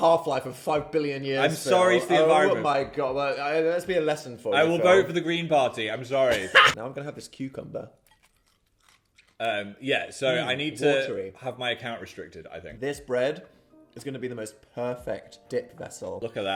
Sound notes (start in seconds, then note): 6.3 laughs; 8.0 cucumber crunching